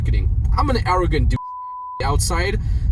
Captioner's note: beep